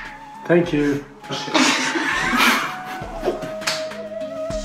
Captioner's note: laughter